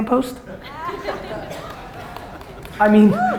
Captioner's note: audience laughter